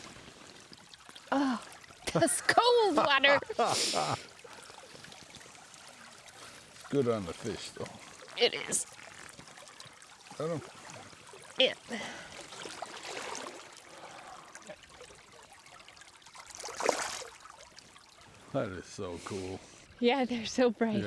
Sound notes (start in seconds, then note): 10.5 water dribbling